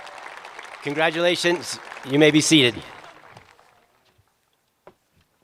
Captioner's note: cheers and applause